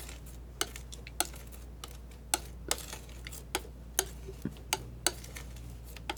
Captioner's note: scratching